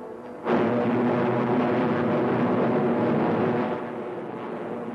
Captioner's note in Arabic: هدير محركات الطائرة